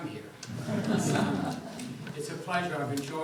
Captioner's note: audience chuckles